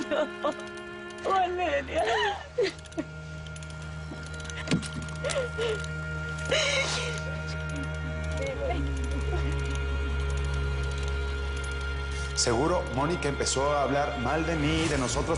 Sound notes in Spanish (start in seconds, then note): 1.7 Sollozos